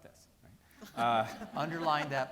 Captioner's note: people laughing